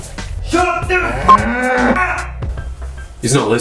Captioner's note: yells; beep